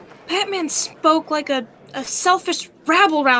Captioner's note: crowd cheers and applauds; crowd murmurs and mills about